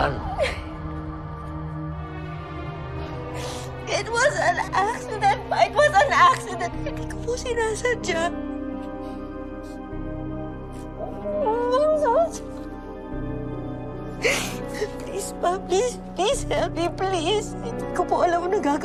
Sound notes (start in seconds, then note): 0.2 mercedes sobs; 3.3 sniffles; 10.9 muffled voice